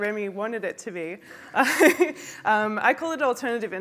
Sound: laughs

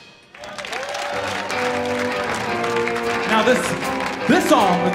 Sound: audience applauds

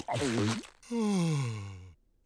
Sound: sighing

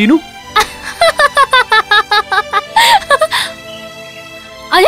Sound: laughs

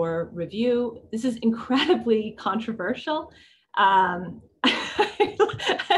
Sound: laughs

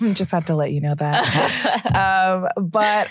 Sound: laughs

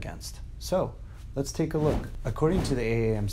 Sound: whooshing

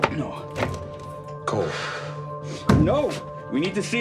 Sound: exhales

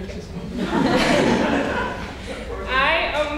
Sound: audience laughing

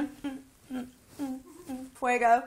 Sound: humming

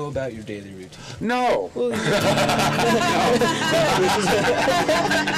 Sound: laughter

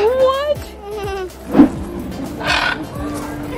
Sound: chuckles; birds squawking

